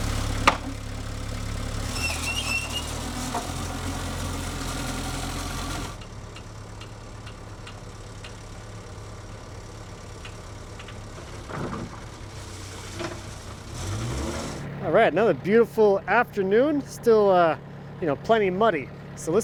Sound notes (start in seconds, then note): 0.4 wood thuds; 2.5 skid-steer squeaks; 14.0 truck revs